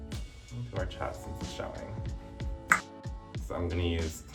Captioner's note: tongue clicking